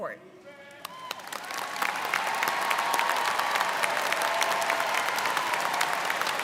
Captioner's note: students cheering and applauding